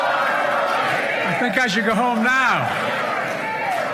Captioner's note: cheers and applause